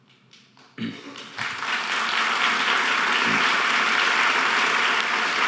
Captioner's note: audience applause